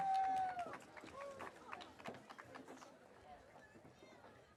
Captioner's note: audience cheering